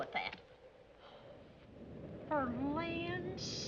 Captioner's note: gasps